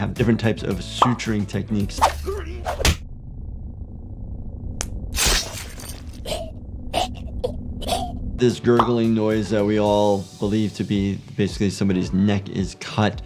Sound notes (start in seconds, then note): 2.4 hand slapping; 4.8 victim gurgling; 5.1 blade slicing